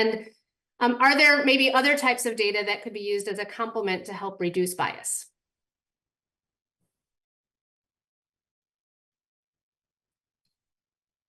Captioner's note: pause